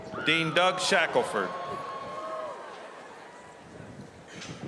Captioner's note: applause